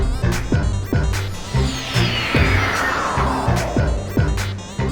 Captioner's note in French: bruit de téléportation